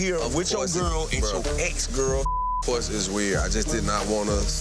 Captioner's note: beep